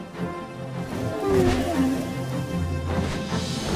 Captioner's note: dragon coos